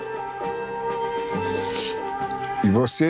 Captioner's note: sniffling